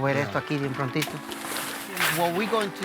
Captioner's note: plastic scuffing